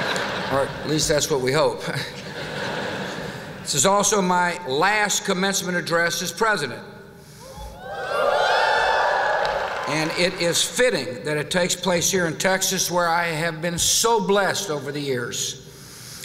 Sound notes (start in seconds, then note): 7.5 whoop!